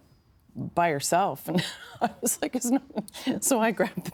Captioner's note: laughing